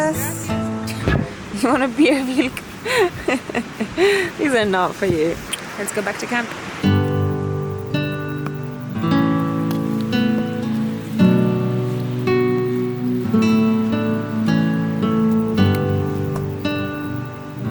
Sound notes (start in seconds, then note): 3.7 laughing; 7.1 calming music